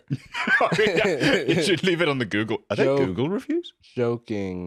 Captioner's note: laughs